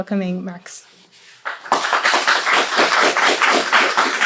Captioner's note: applause